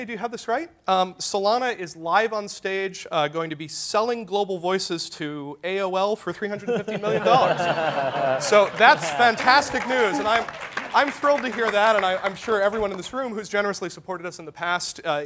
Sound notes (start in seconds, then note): 6.5 laughter; 7.9 applause